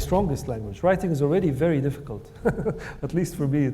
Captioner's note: laughs